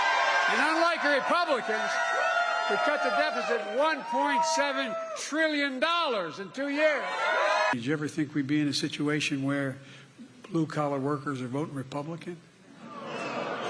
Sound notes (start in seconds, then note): 1.7 cheers and applause